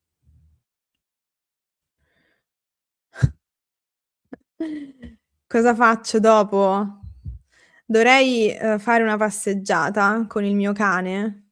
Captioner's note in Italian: risate